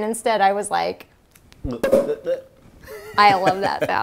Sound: pop!

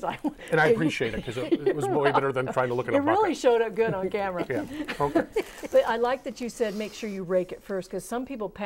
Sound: laughing

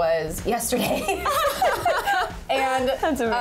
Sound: laughing

